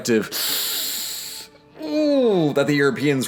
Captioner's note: inhale